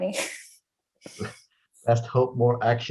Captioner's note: chuckles